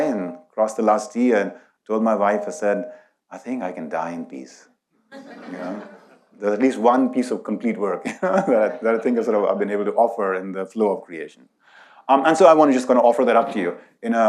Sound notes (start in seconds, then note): 5.1 audience laughs; 8.0 laughs